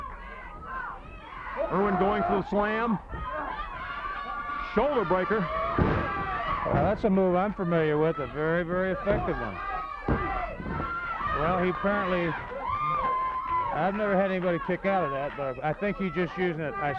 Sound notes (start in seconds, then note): 5.6 body thudding; 10.0 hands thudding